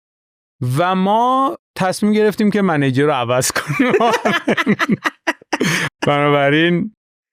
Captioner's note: laughs